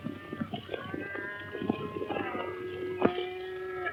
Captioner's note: none